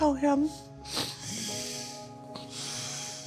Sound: sniffling

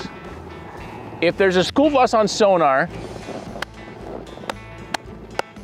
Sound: clapping

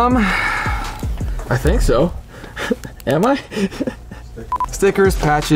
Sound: laughing

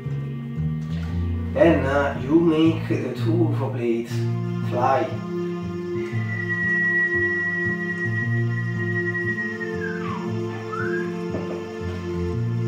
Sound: whistle

